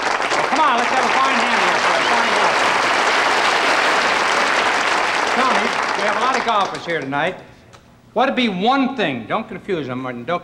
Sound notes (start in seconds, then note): 0.2 audience applauding; 3.3 audience applauding